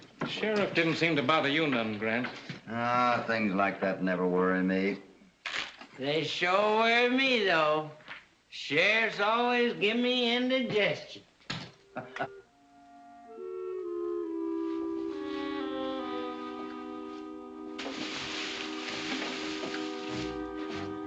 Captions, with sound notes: Sheriff didn't seem to bother you none, Grant. Ah, things like that never worry me. They sure worry me though. Sheriff always gives me indigestion. [ HOPPY CHUCKLES ] [ SUSPENSEFUL MUSIC ]